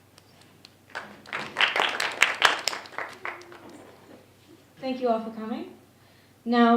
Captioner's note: clapping